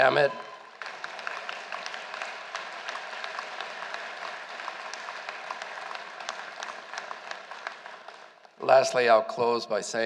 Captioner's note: applause